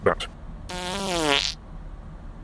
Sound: passing wind

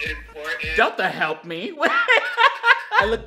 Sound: laughs

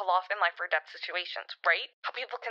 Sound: none

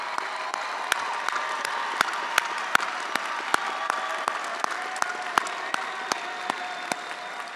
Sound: attendees applauding and cheering

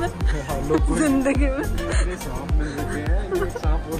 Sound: laughing

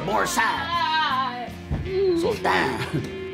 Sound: thud

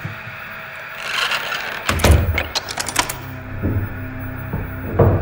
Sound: door knob creaking

